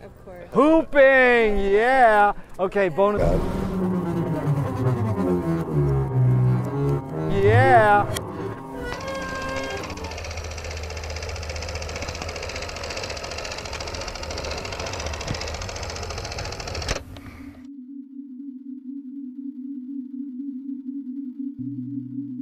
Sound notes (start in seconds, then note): 10.7 projector clacking softly; 17.7 sonorous synth music